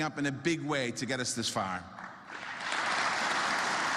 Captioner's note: applause